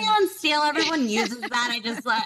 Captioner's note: chuckles